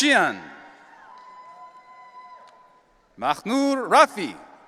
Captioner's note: audience cheering